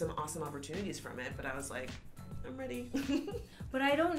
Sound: laughs

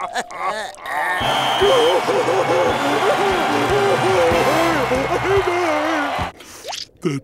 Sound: crying

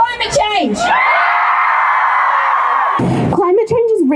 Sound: cheering

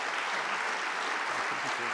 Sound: applause

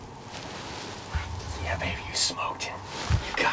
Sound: whispering

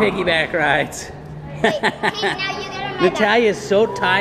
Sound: chuckling

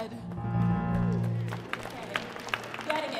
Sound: audience applauding

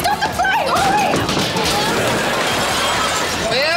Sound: clattering

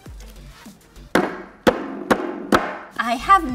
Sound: glass thuds on table

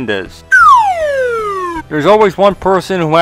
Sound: slide whistle

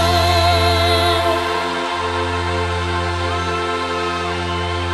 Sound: publico gritando

